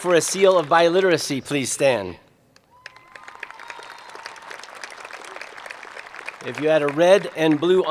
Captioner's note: applause